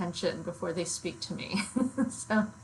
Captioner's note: laughs